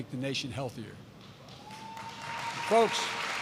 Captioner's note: applause